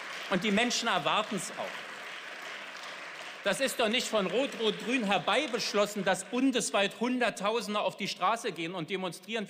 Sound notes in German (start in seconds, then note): 2.2 Beifall